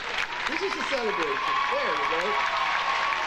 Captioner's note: audience applauding